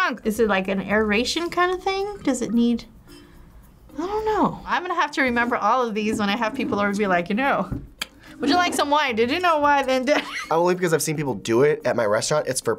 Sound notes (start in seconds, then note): 10.1 chuckles